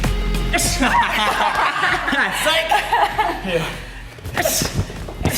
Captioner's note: laughs